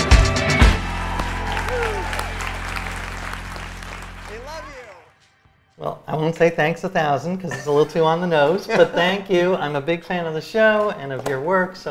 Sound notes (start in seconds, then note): 0.1 audience applauds and cheers; 8.8 laughs